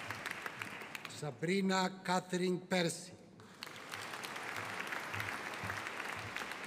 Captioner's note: audience applauding